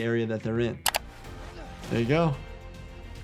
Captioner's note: screen clicking